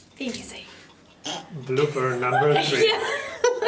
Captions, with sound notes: - Easy! [SNORT] - Blooper number three! - Yeah [LAUGHING]